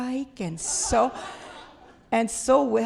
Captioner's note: laughter